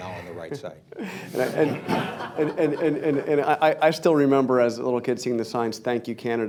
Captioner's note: laughter